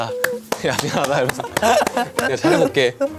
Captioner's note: haha